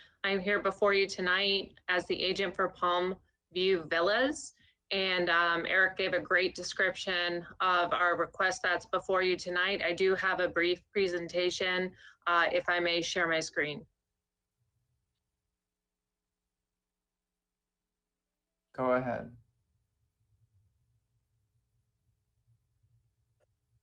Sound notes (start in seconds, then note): 1.0 audio distortion